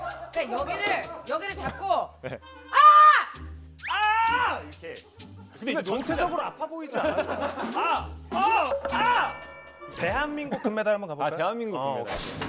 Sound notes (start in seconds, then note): 3.8 ahhhhh